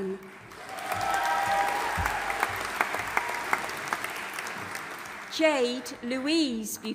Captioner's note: audience applauding and cheering